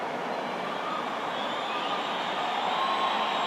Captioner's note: applause